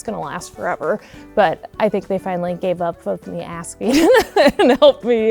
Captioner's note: laughs